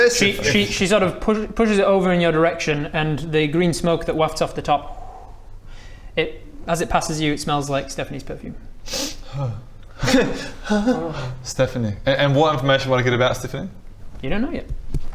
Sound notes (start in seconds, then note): 8.8 sniff